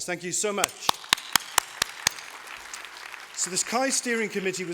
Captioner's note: applause